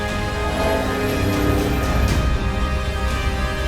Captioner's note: Lightsaber hums